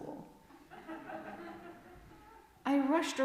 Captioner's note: laughter